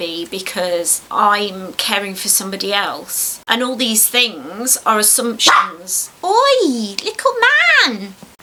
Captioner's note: woof